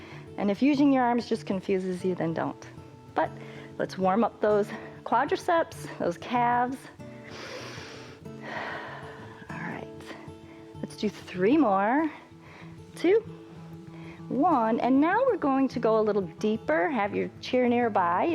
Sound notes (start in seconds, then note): 7.1 inhales and exhales